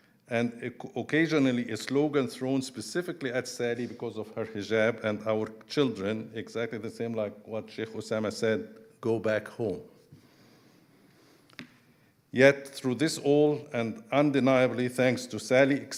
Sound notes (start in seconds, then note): none